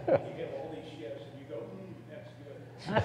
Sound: laughs

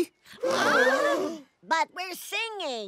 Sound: elves gasp

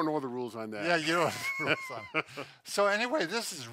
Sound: laughs

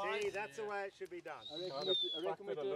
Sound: whistling

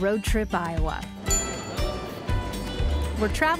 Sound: dings

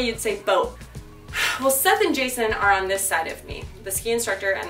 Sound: sigh

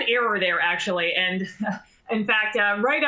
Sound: laughter

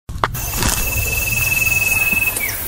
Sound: footsteps

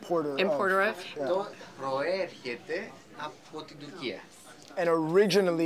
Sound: speaking Greek

